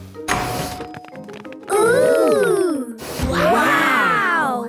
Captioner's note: door dings open